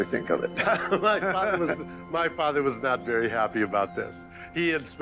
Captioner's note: laughs